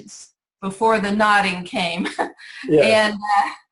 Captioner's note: laughs